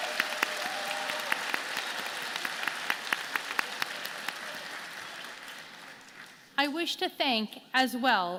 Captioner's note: applause